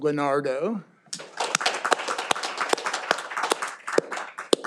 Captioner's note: all applauding